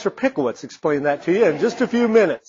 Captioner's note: audience laughing